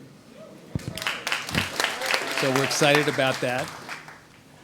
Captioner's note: audience applauds